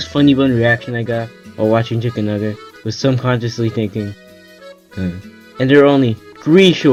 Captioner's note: heh